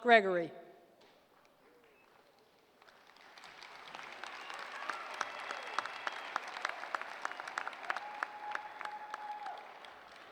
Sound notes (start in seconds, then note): 1.7 applause